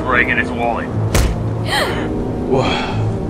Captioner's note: both gasp